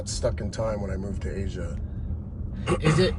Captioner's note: coughs